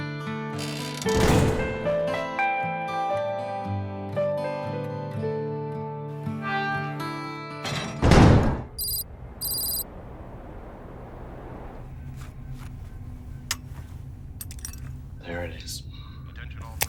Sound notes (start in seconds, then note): 0.5 door creaking; 6.1 door creaking; 10.1 soft music continues